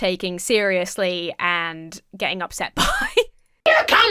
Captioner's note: laughs